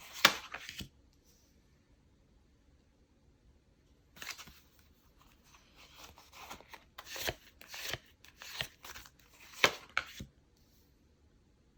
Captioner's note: drawing cards